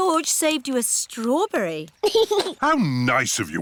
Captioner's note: giggles